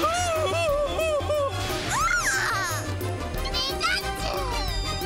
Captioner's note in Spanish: gritos